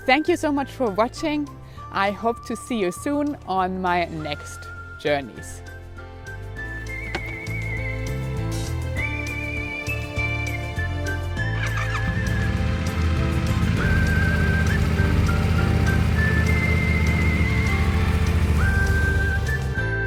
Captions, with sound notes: Thank you so much for watching, I hope to see you soon on my next journeys. (bright upbeat music) (motor engine roaring)